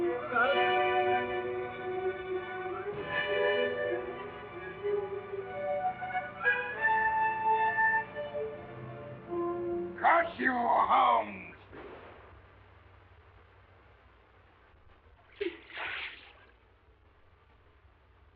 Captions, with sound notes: Look out! (suspenseful music) - Curse you, Holmes! (gunfire blasting) (water splashing)